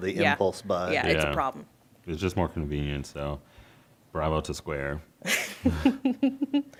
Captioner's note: chuckling